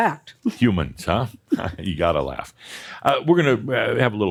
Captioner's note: giggles